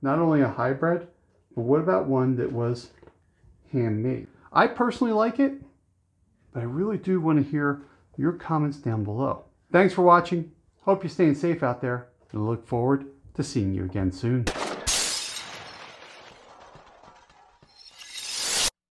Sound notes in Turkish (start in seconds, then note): 14.4 Silah sesi